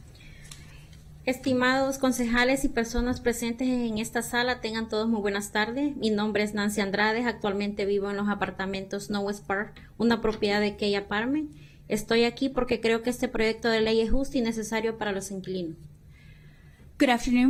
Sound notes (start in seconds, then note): 8.5 speaking spanish